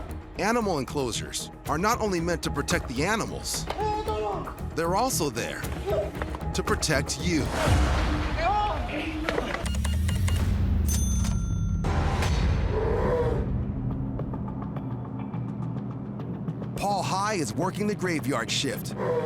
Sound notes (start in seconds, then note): 9.6 beeping; 10.8 cash register dings; 12.6 bear growls; 13.7 tense music plays